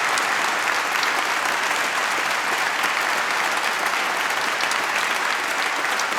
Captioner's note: applause